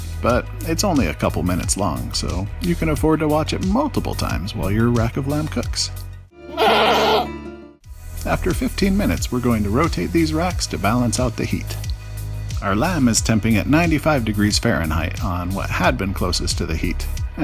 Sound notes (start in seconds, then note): 6.4 goat scream